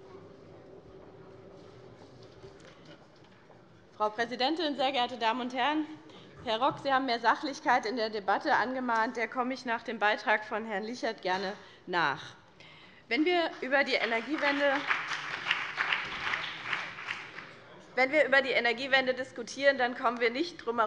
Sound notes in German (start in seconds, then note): 13.5 Beifall BÜNDNIS 90/DIE GRÜNEN